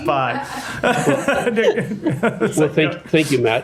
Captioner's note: laughter